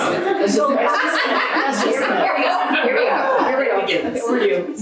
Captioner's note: panelist laughing